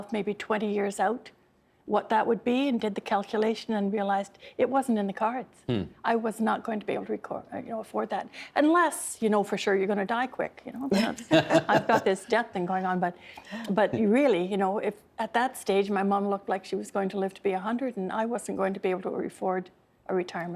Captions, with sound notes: 20 years out, what that would be, and did the calculation and realized it wasn't in the cards. I was not going to be able to afford that. Unless, you know, for sure you're going to die quick. (Laughing) I've got this death thing going on, but really, you know, at that stage my mom looked like she was going to live to be 100 and I wasn't going to be able to afford a retirement home